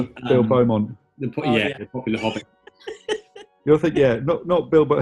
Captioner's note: giggling; laughing